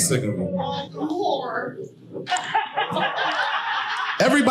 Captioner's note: audience laughing loudly